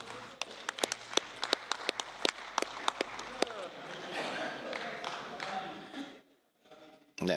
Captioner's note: clapping